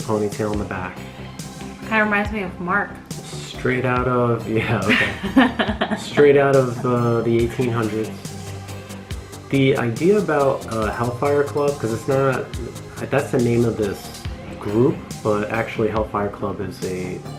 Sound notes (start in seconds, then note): 4.6 laughs